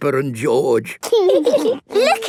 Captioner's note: laughing